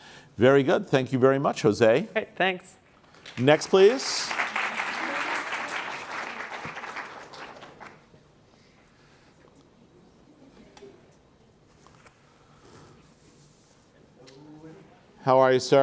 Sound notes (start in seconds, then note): 5.8 applause